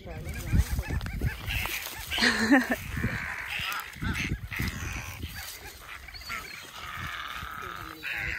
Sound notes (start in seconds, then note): 1.4 bird sounds